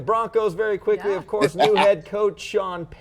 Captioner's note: Michael laughing